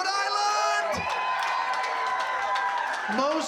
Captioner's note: crowd cheering, clapping